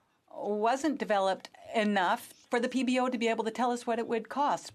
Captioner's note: speaking French